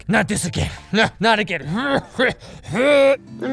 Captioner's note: gags to death